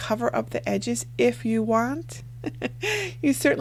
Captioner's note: laughs